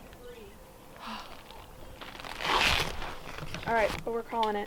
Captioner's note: sighs